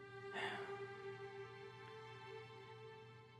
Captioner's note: John sighs